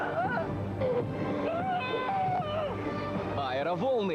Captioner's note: scream